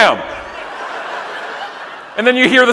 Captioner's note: audience laughing